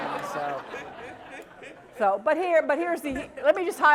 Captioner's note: laugh